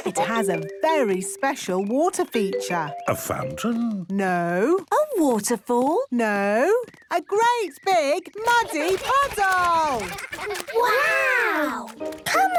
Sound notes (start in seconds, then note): 8.5 splashing